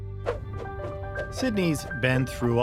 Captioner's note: cars swooshing